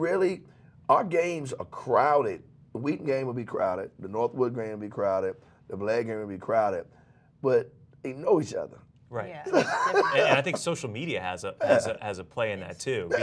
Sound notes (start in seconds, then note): 9.5 laughs